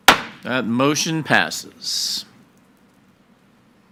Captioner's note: gavel bangs